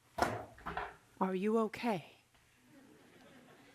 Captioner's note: turns to noise of dropped laptop